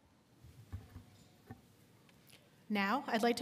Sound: none

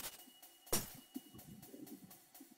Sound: syringe smashes

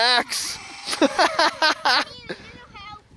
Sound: laughing

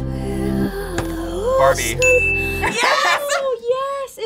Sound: bell rings

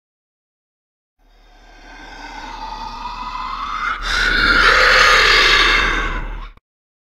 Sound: sound of growling

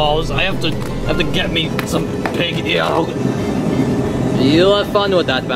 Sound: exclaims

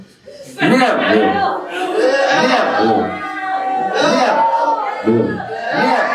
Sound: audience chanting MILK very loud

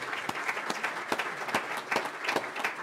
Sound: applause

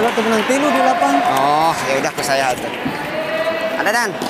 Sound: applause

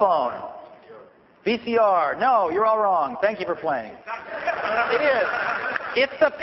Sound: laughter

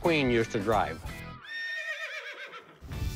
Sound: horse whinnies

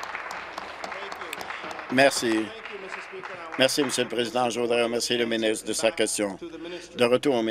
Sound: applause

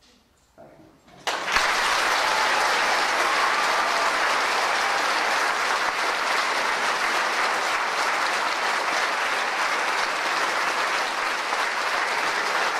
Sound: audience applaud

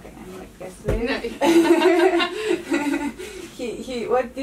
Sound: interviewer and the lady laughing

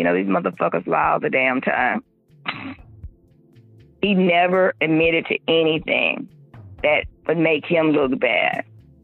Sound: chuckles

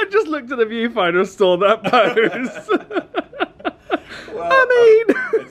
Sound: laughs

